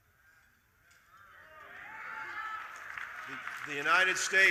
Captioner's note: audience cheering